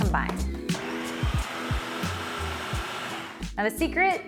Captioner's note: processor whirs